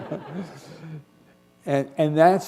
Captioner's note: laughter